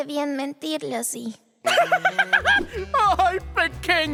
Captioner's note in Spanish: Giovanni se ríe